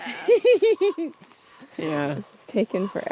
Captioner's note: laughs